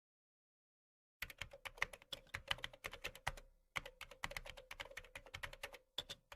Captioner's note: keyboard sound